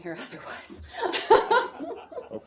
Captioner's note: laughter